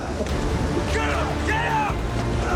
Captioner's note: men shouting